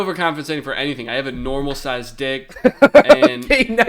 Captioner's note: laughs